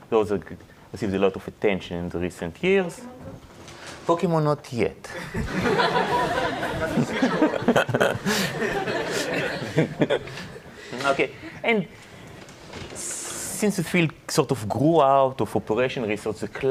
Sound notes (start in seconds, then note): 5.1 audience laughs